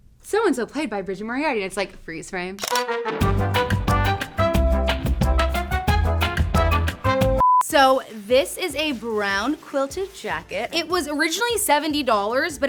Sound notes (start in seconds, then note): 2.6 camera snaps; 2.7 lighthearted music